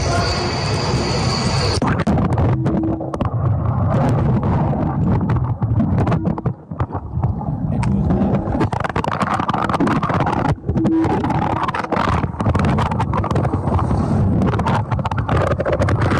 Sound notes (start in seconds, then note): 1.6 air whooshing; 1.6 water sloshing; 11.0 air whooshing; 11.0 water sloshing